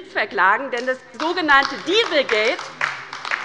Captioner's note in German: Beifall bei der LINKEN